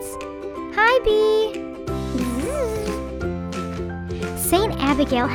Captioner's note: bee buzzes